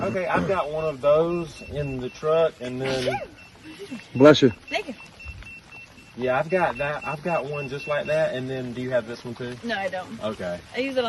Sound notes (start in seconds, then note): 2.8 women sneezes